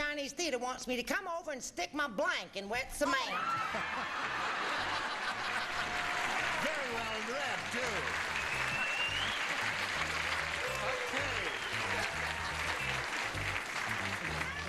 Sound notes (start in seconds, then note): 7.9 laughing, applauding